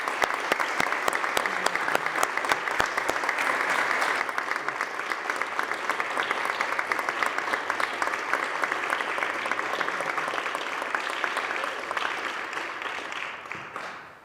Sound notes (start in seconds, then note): 0.0 applause